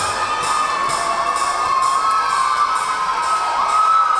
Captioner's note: yelling